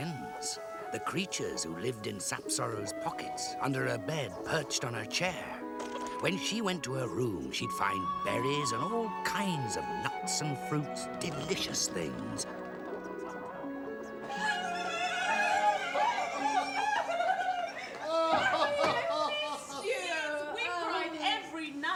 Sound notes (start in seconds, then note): 14.1 sisters laughing; 17.6 King laughing